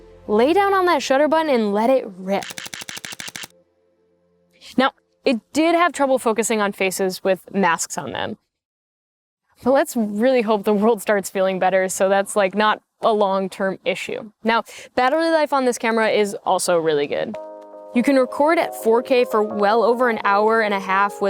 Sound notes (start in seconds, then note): 2.4 shutter clicking